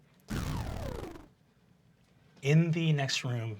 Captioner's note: whirring